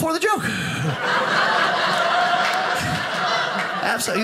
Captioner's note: audience laughing